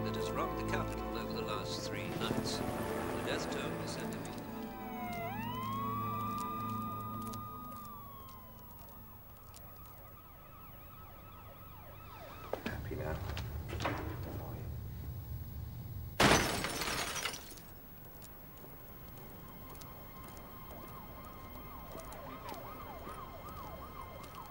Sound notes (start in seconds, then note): 2.8 helicopter whirring; 5.5 sirens wailing in distance; 16.1 glass shattering; 19.4 gentle orchestral music; 19.4 sirens wailing in distance